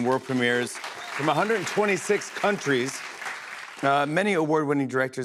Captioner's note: applause